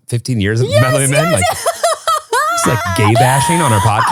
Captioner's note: laughs